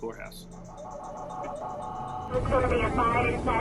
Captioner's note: sirens